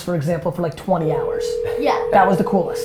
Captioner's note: phone ringing